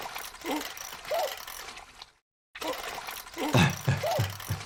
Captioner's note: Pop groans; doctor laughs